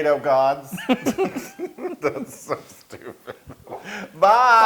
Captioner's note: laugh